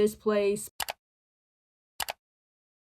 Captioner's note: another click; computer mouse click